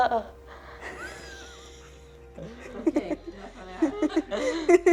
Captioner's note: laugh